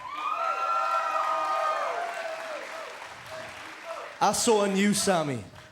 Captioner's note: cheers and applause